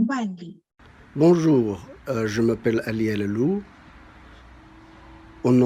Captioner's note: speaks in foreign language